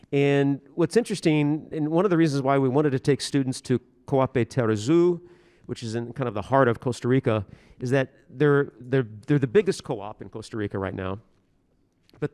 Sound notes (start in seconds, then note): 3.7 speaking foreign language